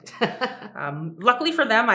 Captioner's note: laughs